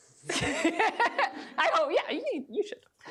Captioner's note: laughs